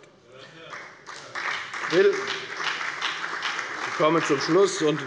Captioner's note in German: Beifall bei der FDP und der SPD